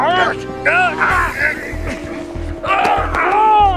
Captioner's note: men groaning